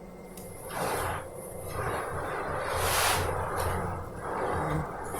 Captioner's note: body being dragged